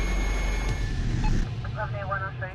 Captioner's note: police radio beeps